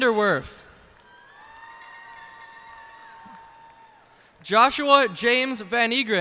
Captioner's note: cheers and applause